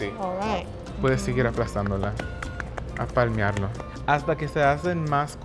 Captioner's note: speaking Spanish